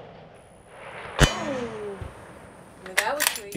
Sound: gun fires; clang

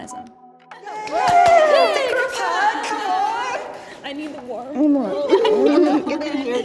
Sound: group cheering; group murmuring

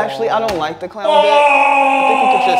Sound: moaning loudly

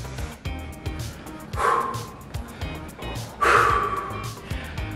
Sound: breathing in and out

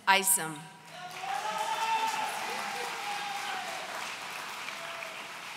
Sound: audience cheering

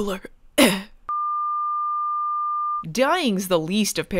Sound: flatline

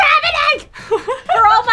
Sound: laughs

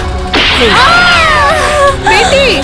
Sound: gunshot

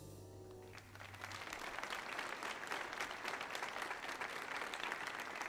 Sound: audience applauds

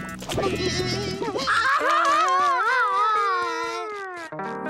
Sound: crying

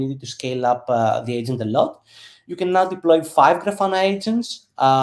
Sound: none

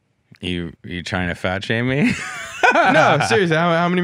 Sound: laughs

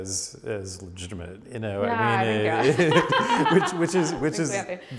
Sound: both laughing

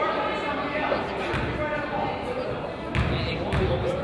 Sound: coaches yell

